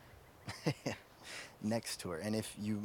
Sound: laughs

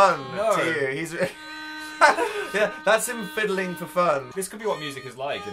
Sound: laughs

